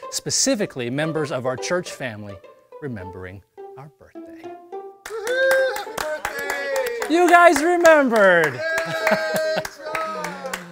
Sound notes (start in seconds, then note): 5.0 clapping